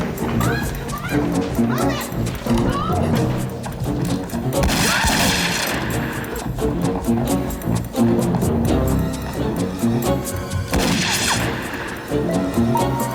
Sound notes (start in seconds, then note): 0.0 Dexter groaning; 0.0 dramatic music; 4.5 gun bangs; 10.7 gun bangs